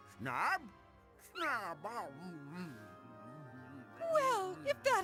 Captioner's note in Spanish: sorprendida